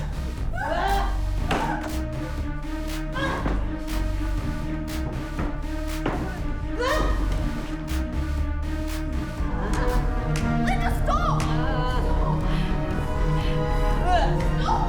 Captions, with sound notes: (dramatic music) (all screaming) (dramatic music) Linda. Linda stop. (dramatic music)